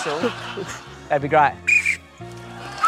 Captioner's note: blows whistle weakly